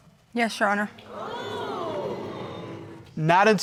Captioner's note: crowd